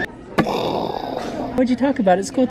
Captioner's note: makes explosion noises